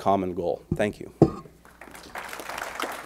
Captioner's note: applause